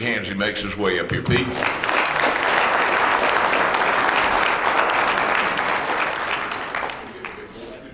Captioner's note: applause